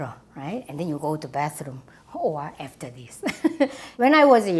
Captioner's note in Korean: 웃음